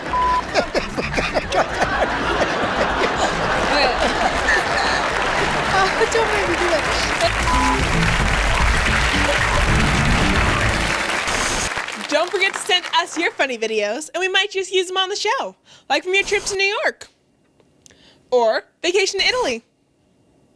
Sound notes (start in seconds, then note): 0.0 laughing; 0.2 laughing and mumbling at the same time; 4.8 applause; 7.1 applause and upbeat jazz music; 11.2 static